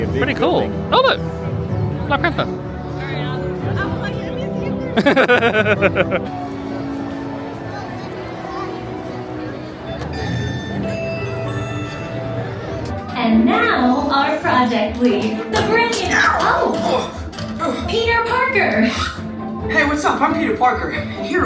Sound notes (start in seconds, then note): 5.0 laughing; 9.9 beeping